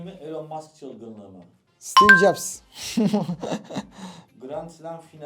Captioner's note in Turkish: kahkaha